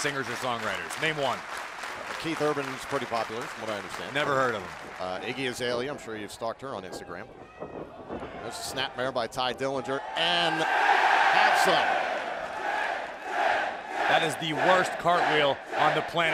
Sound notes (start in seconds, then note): 9.8 cheers & applause; 12.3 fans chanting